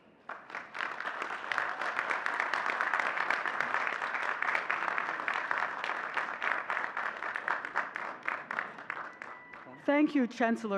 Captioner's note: audience clapping and cheering